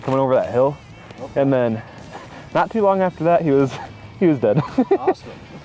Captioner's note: laughing